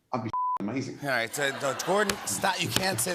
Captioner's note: laughter